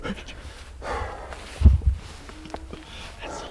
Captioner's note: breathing / natural noises